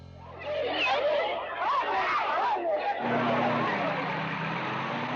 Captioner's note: crowd shouting; engines running